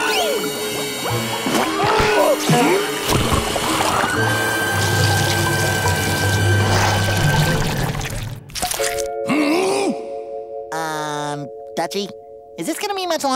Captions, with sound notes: [groaning] Hmm? Um, Dutchy, Is this gonna be much longer?